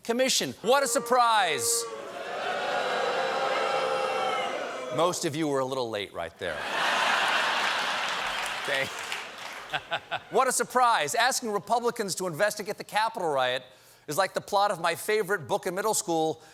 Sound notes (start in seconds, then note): 6.7 applause; 6.9 laughter